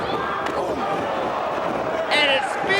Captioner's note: foot slaps